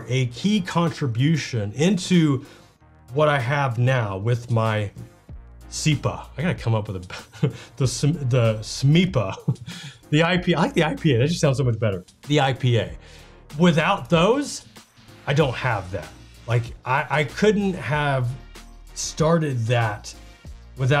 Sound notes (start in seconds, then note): 9.2 chuckles; 9.3 laughs